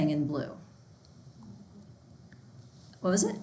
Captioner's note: student speaking faintly